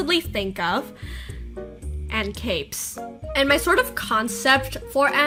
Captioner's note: none